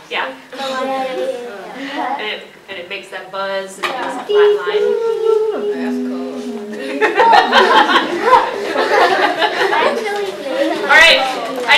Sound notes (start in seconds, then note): 4.2 imitating beeping; 6.8 laughter